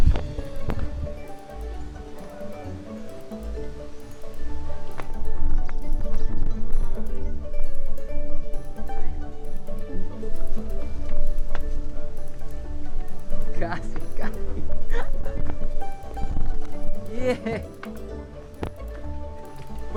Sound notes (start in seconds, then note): 13.4 laughs; 13.7 in Spanish